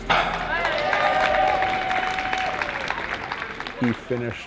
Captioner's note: crowd cheers